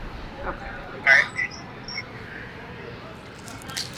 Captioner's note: birds chirping